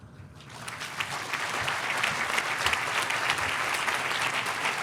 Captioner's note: audience applauding